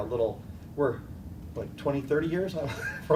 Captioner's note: laughter